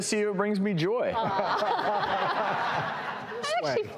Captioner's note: audience laughs